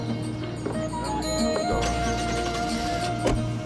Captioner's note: engine turns over